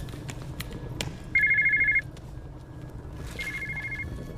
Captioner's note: cell phone ringing